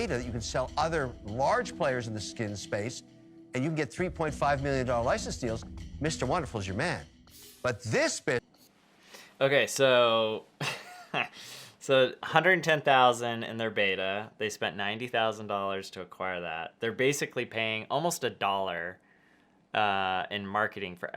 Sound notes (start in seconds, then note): 10.3 laughs